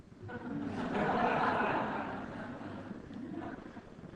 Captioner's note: audience laughs